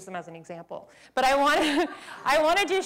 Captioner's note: laughter